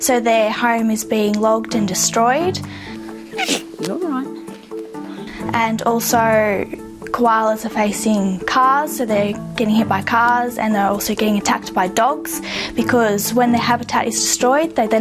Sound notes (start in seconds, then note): 3.2 koala sneezes